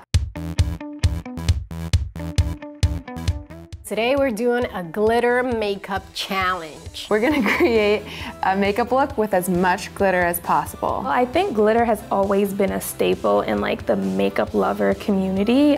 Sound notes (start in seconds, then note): 0.0 upbeat electronic music; 7.3 laughs